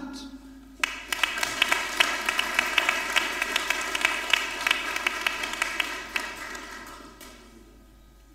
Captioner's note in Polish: oklaski